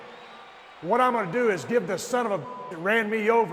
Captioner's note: beep